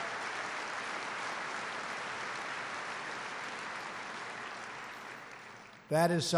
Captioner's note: applause